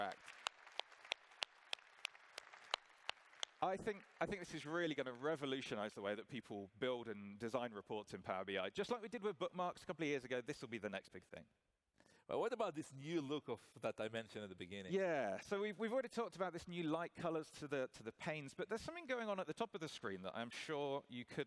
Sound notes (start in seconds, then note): 4.7 applause